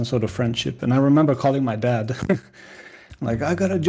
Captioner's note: laughs